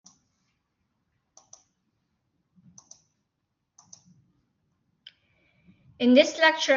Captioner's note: silence